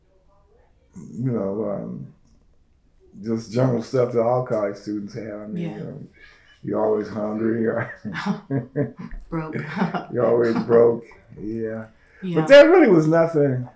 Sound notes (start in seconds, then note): 6.7 laughs; 7.6 laughter